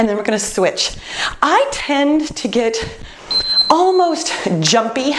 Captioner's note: beeping